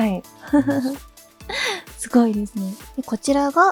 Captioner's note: chuckles